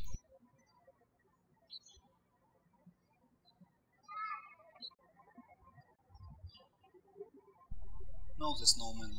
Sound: birds chirping

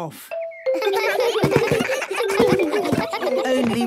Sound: giggles

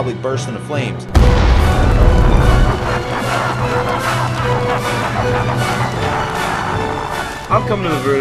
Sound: music intensifies; explosion, fire and devil laughter

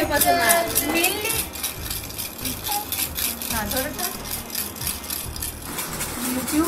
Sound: sound of a toy

